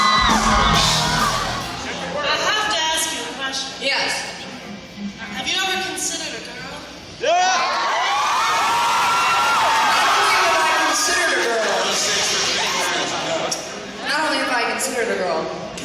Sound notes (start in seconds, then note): 0.0 Jenna Haze fake moaning; 0.0 audience cheers; 0.0 the audience cheers throughout this